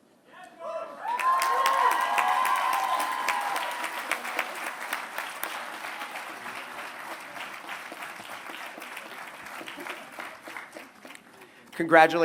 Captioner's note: applause